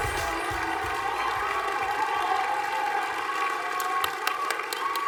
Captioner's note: applause